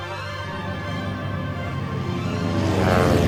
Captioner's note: plane engine roars